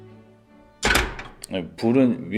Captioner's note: metal Clank